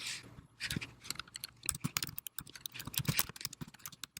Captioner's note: keys clicking